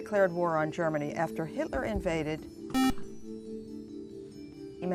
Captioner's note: buzzer